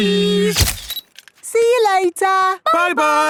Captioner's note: camera click